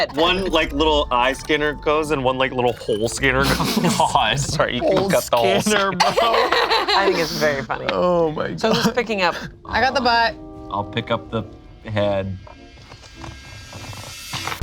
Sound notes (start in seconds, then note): 3.2 group laughs